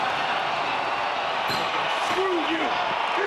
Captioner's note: crowd cheers